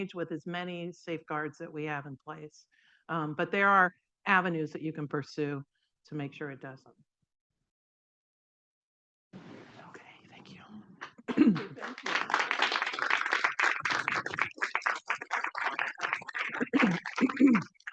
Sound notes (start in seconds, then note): 11.0 participants clapping